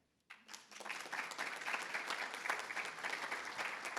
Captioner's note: everybody applauds